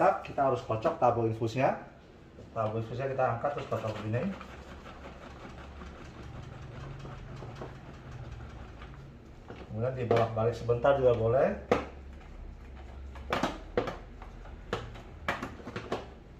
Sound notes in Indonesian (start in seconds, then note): 2.9 suara tabung infus dikocok